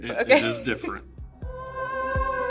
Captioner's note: laughs